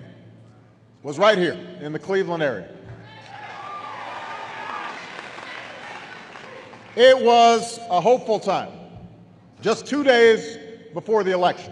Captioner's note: applause